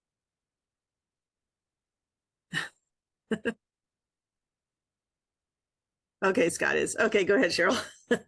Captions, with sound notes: (chuckle) Okay, Scott is. Okay, go ahead, Cheryl!